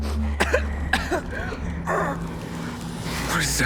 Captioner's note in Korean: 기침 소리